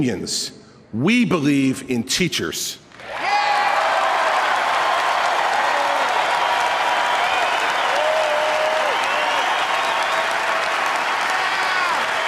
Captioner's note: applause